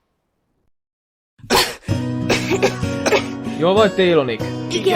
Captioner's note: coughs